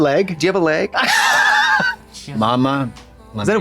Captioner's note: Katya creaks